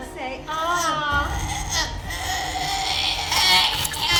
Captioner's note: Rick groaning